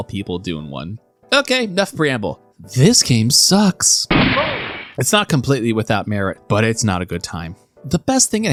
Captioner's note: gunshot